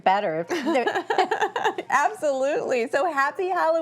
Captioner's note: laughs